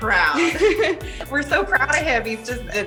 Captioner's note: laughs